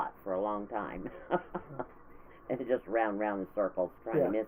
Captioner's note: laughing